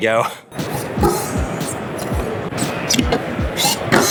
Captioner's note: chuckles; cars banging